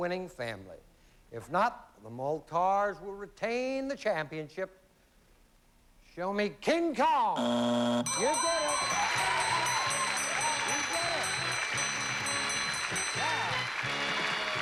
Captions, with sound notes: IF NOT, THE MOLTARS WILL RETAIN THE CHAMPIONSHIP. SHOW ME KING KONG. [BUZZER] YOU DID IT. [CHEERING AND APPLAUSE] YOU DID IT! YEAH!